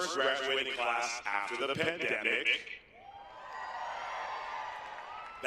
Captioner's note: laughter